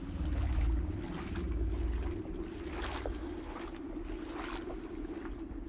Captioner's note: water whooshing